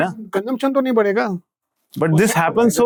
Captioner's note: Kishore speaking in Hindi